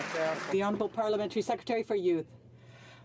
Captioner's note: some Applause